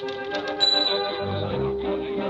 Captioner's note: typewriter keys clacking; typewriter dinging